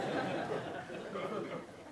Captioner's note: laughing